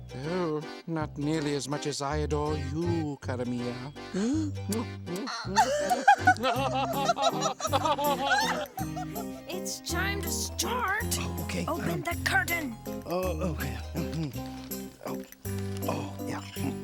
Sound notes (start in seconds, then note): 4.0 smacks lips; 5.0 giggling